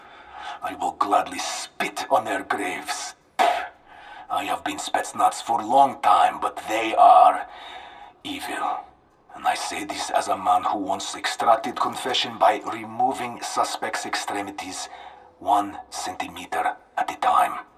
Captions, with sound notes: I will gladly spit on their graves. (spits) I have been Spetsnaz for a long time, but they are evil and I say this as a man who wants extracted confession by removing suspect extremities one centimeter at a time.